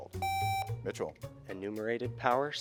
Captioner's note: buzzer beeps